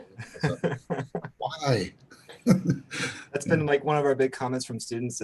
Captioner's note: laughs